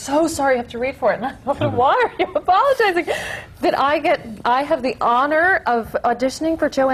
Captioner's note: laughs